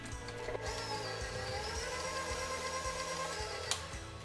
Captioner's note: mixer roaring